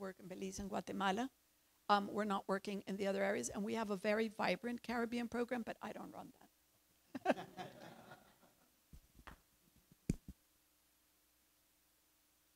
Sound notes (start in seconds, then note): 7.1 chuckles; 7.2 audience chuckles